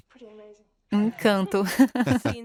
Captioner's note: Charles laughs loudly